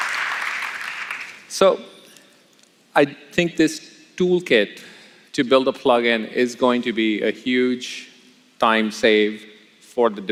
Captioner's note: applause